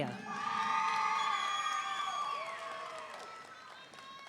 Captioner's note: audience cheering